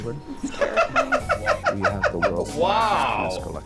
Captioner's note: laughing